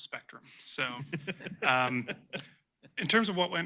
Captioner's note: laughter